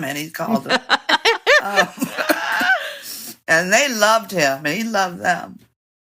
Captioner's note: laughter